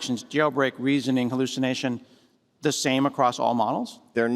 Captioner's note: none